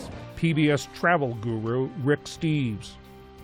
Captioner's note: voice-over